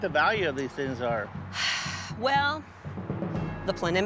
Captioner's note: sighs